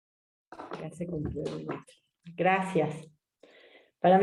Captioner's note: speaking spanish